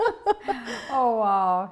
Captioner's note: laughter